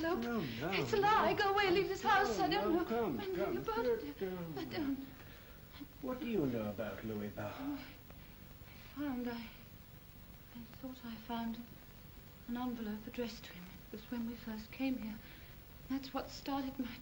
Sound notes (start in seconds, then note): 3.4 mumbles